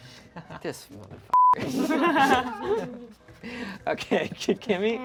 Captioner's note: beep; group laughs